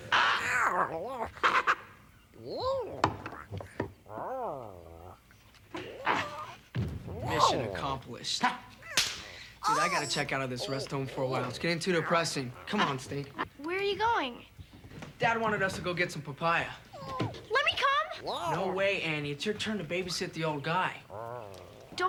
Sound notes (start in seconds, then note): 2.5 Tasha babbles; 6.7 floor thumps; 16.9 Tasha babbles